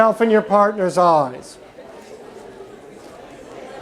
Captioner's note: chatter